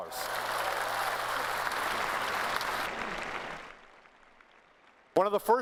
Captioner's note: applause